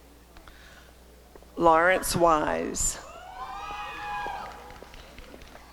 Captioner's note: applause and cheering